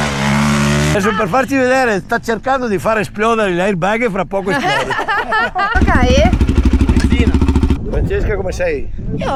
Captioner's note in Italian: risate